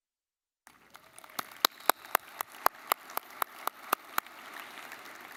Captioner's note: audience applauding